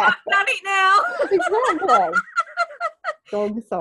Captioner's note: laughing